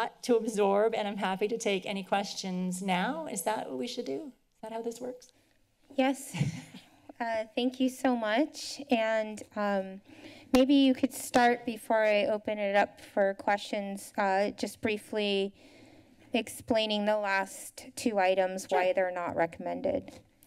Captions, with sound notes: to absorb and I'm happy to take any questions now. Is that what we should do? Is that how this works? -Yes [chuckles]. Uh, thank you so much, and, um, maybe you could start before I open it up for questions, uh, just briefly explaining the last two items why they are not recommended.